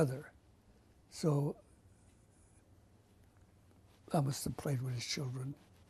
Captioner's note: pauses for 3 seconds